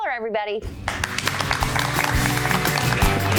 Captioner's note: applause; upbeat music